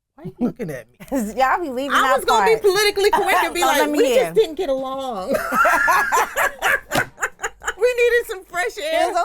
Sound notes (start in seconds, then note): 5.3 laughing